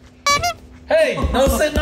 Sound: chair banging; squeaky noise

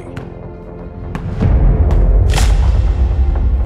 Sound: ball bouncing

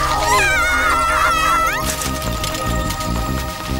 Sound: screaming

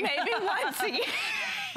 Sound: laughter

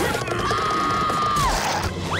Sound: screaming

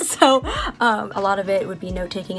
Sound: laughs

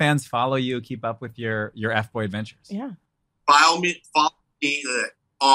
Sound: laughs

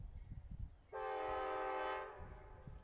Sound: train horn

